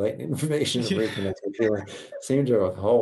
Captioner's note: chuckles